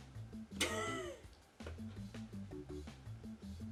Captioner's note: laughing